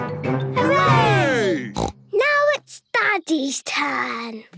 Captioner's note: snort